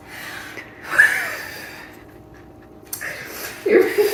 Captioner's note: blowing on food